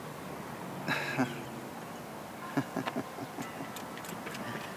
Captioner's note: chuckles